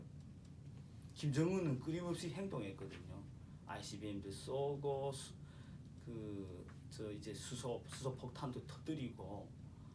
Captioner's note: speaking korean